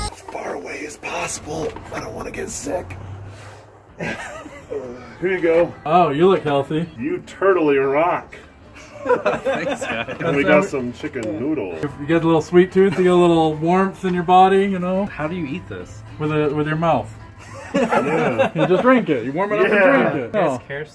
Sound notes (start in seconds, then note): 4.0 soft chuckling; 8.8 all laugh; 17.4 all laugh